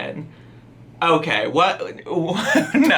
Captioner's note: laughing